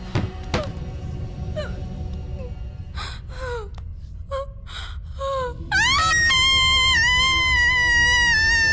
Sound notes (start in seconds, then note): 0.8 chair Falls; 5.8 scream of Agony